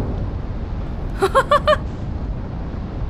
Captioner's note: laughs